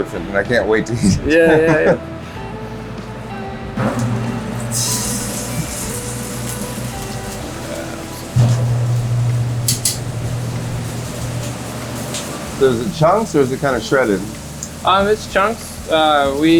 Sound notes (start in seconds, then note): 4.2 beef sizzles